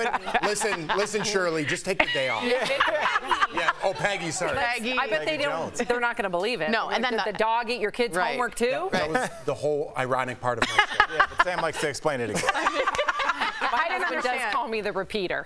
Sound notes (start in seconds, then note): 8.0 laughter